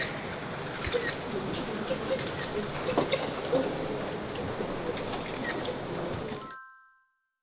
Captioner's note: so excited starts talking in an alien language